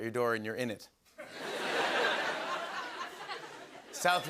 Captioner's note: laughter